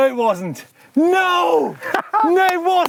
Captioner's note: laughs and claps